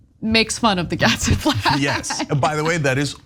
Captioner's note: laugh